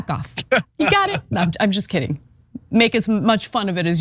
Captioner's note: laugh